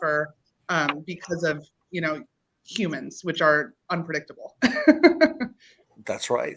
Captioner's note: laughs